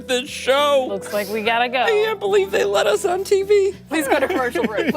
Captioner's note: laughter